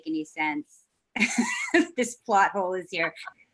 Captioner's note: laughs